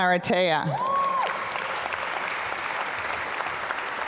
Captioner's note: applause